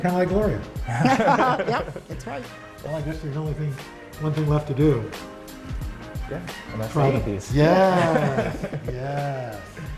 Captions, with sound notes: - Kind of like Gloria. (laughter) - Yep! That's right. - One thing left to do. - Gonna eat these. - Yes!